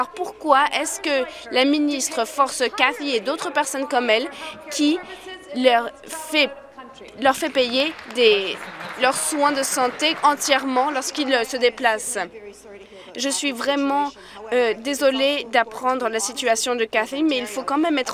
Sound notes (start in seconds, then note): 10.3 applause